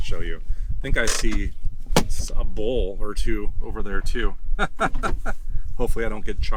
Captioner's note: laughs